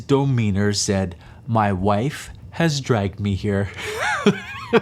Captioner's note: laughs